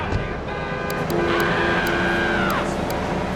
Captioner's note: screaming